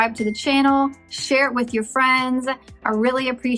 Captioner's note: dings